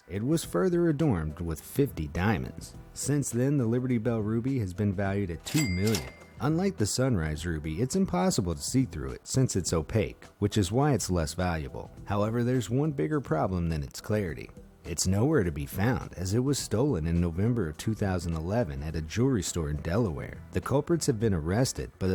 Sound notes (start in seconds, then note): 5.4 cash register ringing